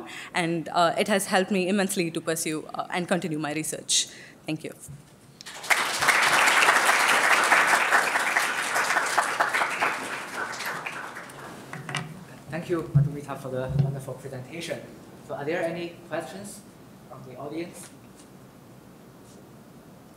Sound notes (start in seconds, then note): 5.4 applause